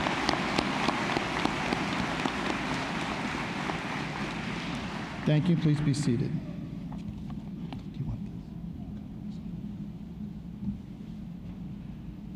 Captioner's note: applause